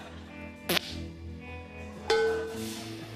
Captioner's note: spits; tin clangs